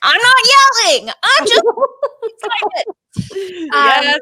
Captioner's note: laughing